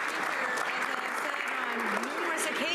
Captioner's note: some Applause